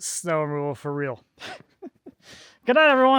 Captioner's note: chuckling